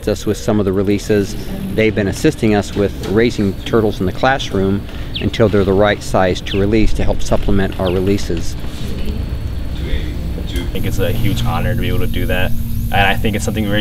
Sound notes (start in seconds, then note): 7.8 students teachers talking in background